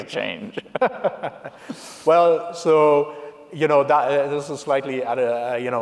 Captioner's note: laughs